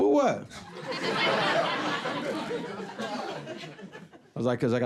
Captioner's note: audience laughing